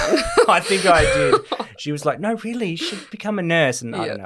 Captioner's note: laughter